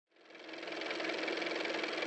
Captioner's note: car motor